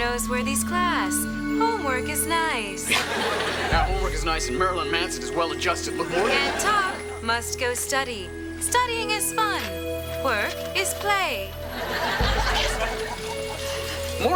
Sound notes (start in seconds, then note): 2.8 laughs